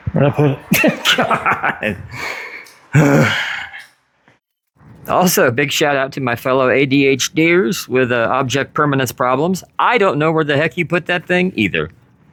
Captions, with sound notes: where'd I put it GAWD [grunt of eternal frustration] also big shout out to my fellow adhders with the object permanence problems I don't know where the heck you put that thing either